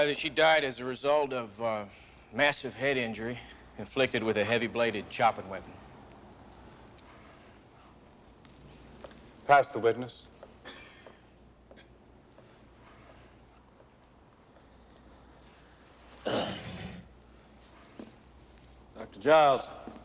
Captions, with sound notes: That she died as a result of a massive head injury inflicted with a heavy bladed chopping weapon. Pass the witness. [CLEARS THROAT] Dr. Giles.